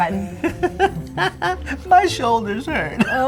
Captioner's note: laughs